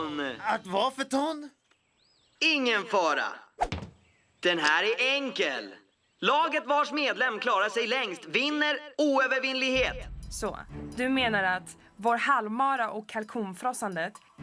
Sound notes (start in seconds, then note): none